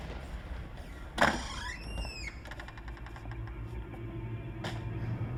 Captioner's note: door creaking